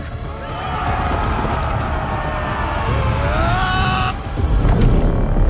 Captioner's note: soldiers shouting war cries